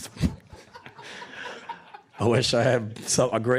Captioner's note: audience laughing